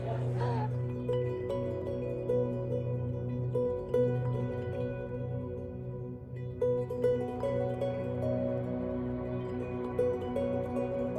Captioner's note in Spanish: ríe